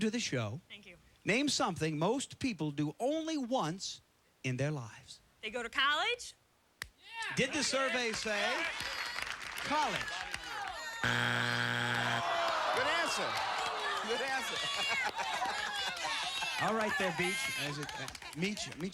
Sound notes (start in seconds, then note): 11.0 buzzer; 14.7 laughing